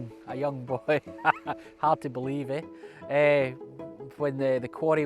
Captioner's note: laughs